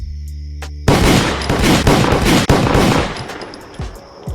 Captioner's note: guns shoot